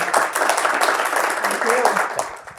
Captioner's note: audience applause